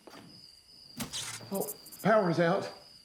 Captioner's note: electricity buzzes